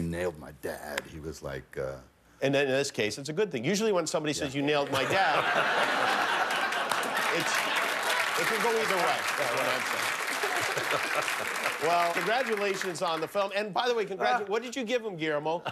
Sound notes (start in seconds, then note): 11.3 laughter and applause